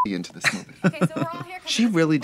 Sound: Katya chuckles

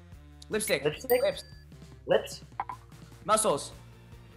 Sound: bell dings

